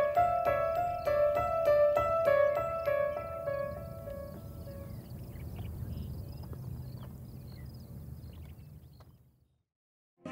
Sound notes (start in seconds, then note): 0.0 bright piano music; 3.8 wind blowing